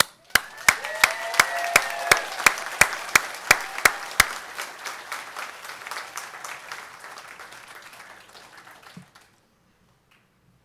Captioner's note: applause